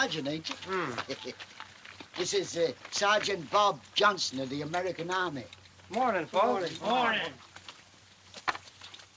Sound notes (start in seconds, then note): 2.2 chuckles